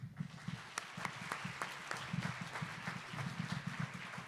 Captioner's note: audience applause